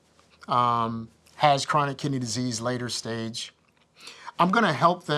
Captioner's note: none